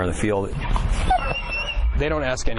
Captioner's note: dog crying